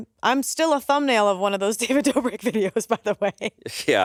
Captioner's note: laughs